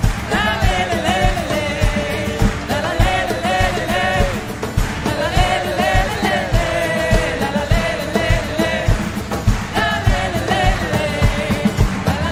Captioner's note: cheering/Applause